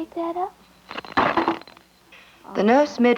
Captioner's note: baby rattle dropped